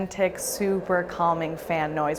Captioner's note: whirring sound